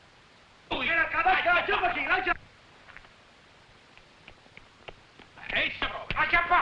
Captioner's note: officers shouting in foreign language